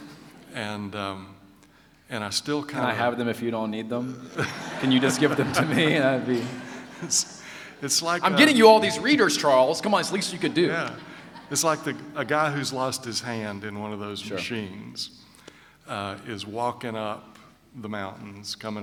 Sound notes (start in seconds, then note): 4.3 laughter